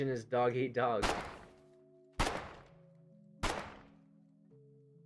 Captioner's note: pistol fire into the dark of night